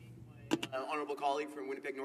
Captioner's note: speaking in french